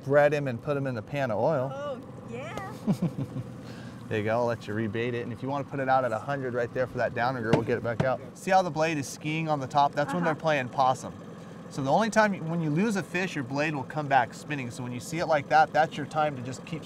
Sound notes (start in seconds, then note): 2.7 chuckling; 9.4 boat engine idling